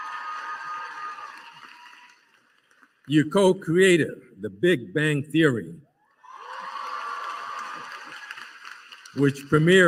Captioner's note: applause